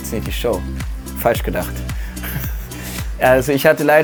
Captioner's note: lacht